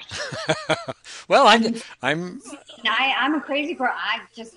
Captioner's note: laughs